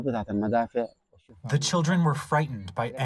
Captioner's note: through translator